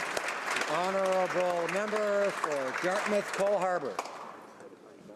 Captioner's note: applause